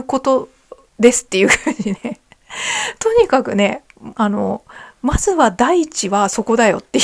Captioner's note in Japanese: 笑い